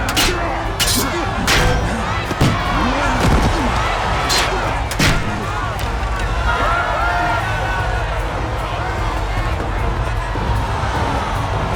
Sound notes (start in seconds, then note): 2.4 crowd exclaims